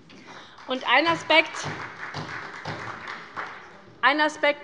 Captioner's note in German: Beifall bei der SPD